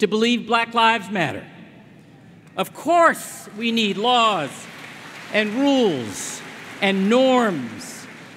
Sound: applause

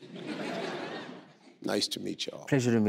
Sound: crowd laughing

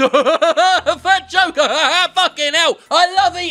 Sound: laughs

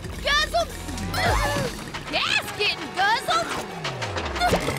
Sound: gasping

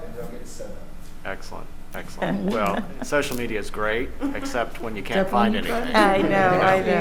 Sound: laughter

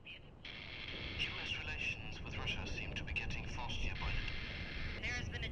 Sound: radio

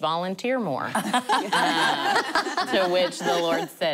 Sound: laughing

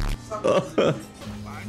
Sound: cries

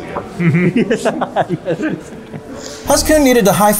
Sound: laughing

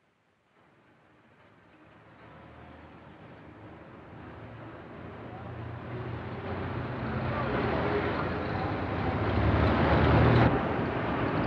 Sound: vehicles rumbling; city street sounds

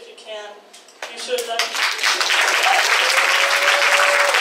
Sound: audience applauds

